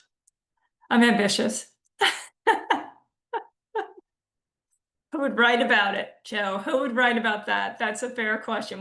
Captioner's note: laughs